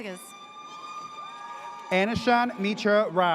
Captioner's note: audience cheers